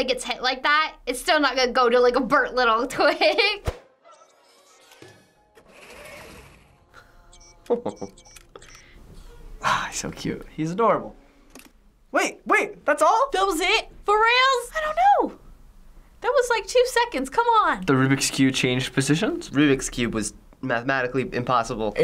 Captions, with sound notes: gets hit, that-- it's still not gonna go to a burnt little twig. - (Wall-E whirring and beeping) - (chuckles) - Aw, he's so cute. He's adorable. Wait, wait! That's all?! - That was it?! For realz?! I don't know! That was two seconds. Come on. - The Rubik's Cube changed positions? - Rubik's Cube was mathematically impossible.